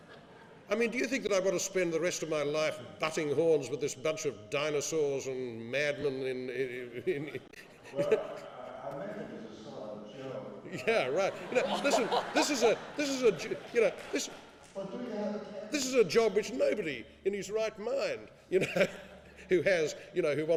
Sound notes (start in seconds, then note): 11.1 laughing